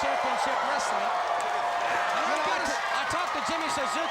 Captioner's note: crowd cheering